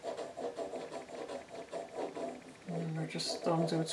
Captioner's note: drawing sounds